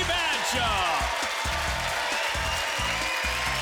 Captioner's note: applause